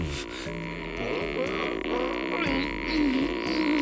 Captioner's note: groaning